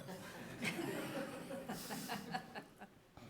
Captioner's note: soft laughter